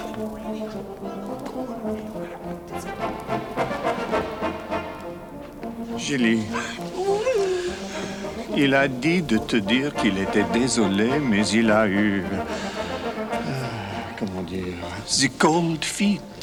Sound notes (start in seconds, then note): 6.4 Jilly whimpers; 8.5 John speaks French; 13.8 John sighs and speaks French